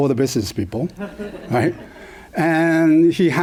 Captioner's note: laughter